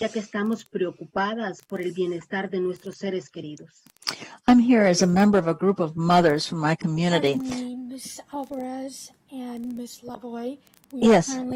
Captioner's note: speaking spanish